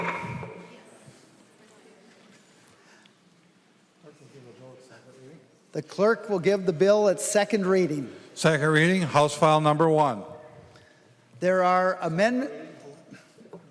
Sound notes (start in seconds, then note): 3.1 chorus of ayes; 8.0 gavel